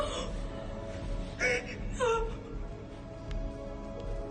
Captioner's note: sobbing